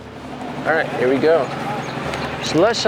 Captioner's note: engine rumbling